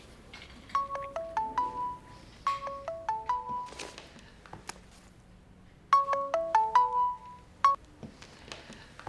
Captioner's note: mobile ringing